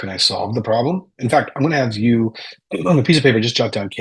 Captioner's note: clears throat